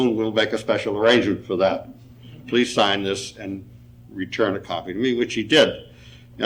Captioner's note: none